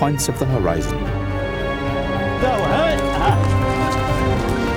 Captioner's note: man yelling